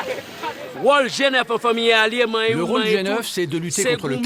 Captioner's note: French spoken audio